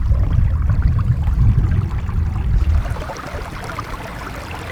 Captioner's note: water flowing